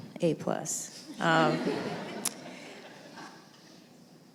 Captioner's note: laughter